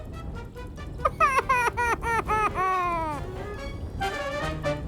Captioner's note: crying; lively rousing music